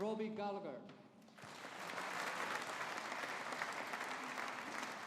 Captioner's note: audience applauding